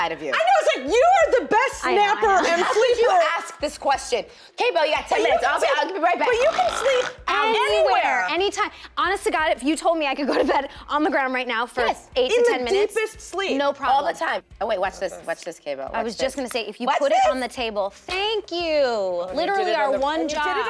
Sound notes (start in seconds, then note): 6.7 snoring